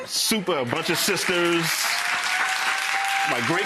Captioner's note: crowd cheering